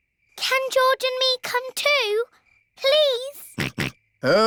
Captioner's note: snorts